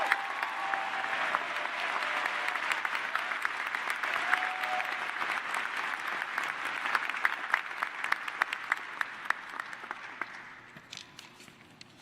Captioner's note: cheers and applause